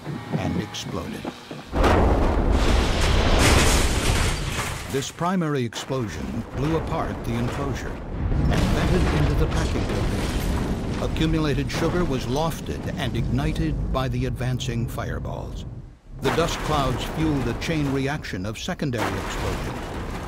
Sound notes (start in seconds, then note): 1.7 sound of explosion; 7.5 sound of explosions; 14.9 sound of explosion; 18.9 sound of explosions